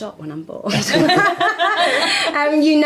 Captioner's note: all laugh